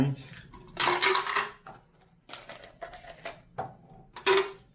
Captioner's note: ice clatters